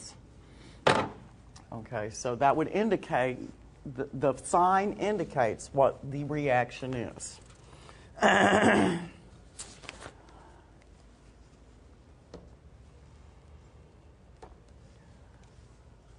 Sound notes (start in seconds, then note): 8.2 clears throat